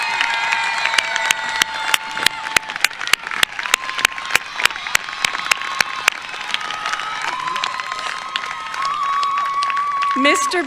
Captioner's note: cheers and applause